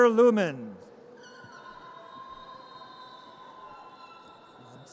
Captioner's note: audience cheers